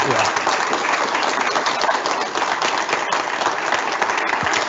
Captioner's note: audience applauding